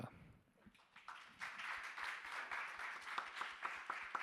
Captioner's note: audience applauding